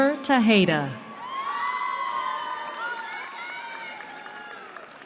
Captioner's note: cheering